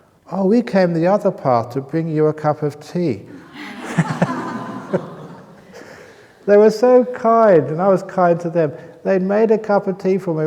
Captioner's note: laughter